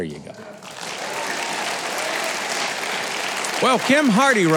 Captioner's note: crowd applauding